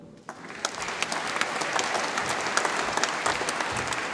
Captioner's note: audience applauds